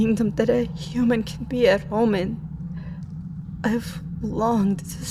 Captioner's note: none